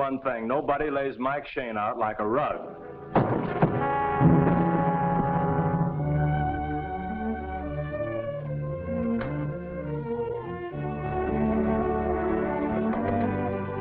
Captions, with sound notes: Nobody lays Mike Shayne out like a rug. (door bangs) (playful music)